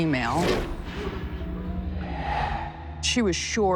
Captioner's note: whap